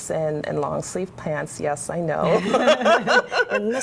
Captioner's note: laughter